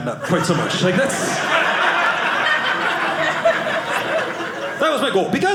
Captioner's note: audience laughing